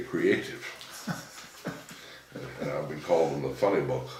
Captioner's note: laughing